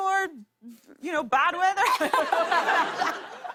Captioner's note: laughter